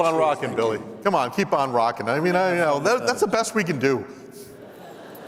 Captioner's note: laughter